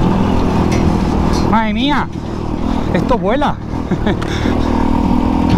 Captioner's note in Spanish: risas